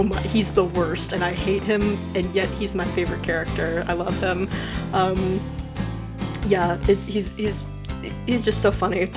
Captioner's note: stammers